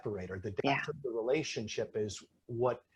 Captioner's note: speaking faintly